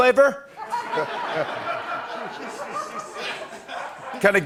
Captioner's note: laughter